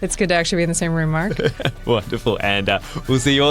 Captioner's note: laughs